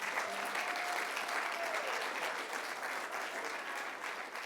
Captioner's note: applause